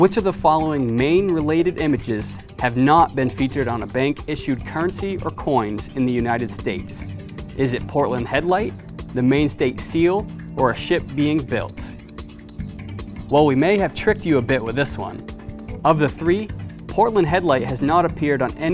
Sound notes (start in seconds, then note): none